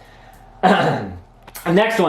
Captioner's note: clears throat